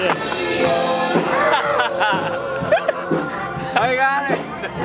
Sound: laughter

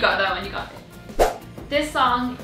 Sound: thwip sound

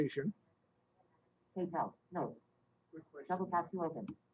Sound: software talking

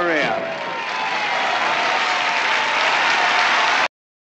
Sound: spectators are applauding

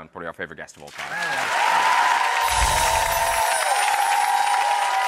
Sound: audience cheers

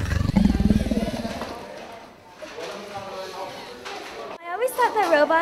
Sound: dinosaur roar

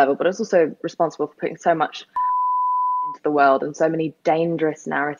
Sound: beep

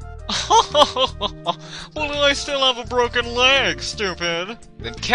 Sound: laughs

